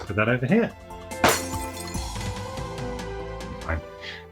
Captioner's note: glass breaks